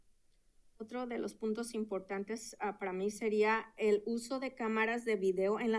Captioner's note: speaking in Spanish